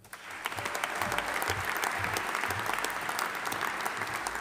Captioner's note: audience applauding